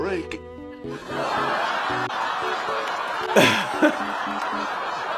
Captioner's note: audience laughing